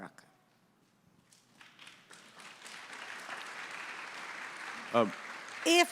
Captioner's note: audience applauding